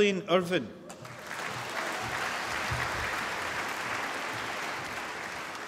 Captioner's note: applause